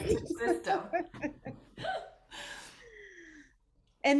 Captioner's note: laughter